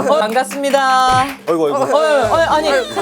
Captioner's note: thud!